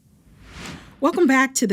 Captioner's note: graphics whooshing